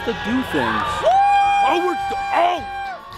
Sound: crowd cheering

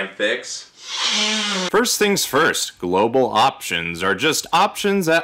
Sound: sniff

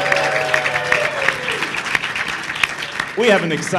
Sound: cheering and applause

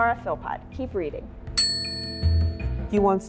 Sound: ding

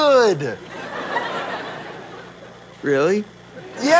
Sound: audience laughter

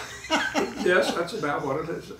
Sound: laughing

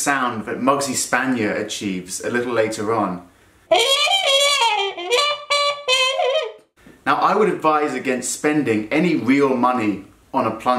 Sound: trumpet effect

